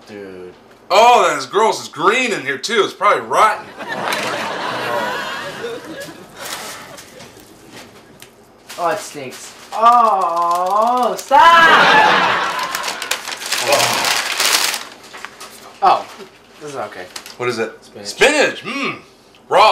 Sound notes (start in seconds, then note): 3.6 audience laughs; 11.5 audience laughs